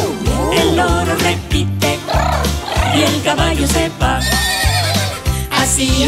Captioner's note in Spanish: Relincho